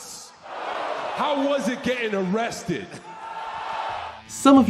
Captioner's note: audience cheering